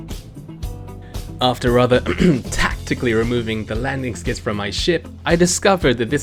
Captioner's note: ahem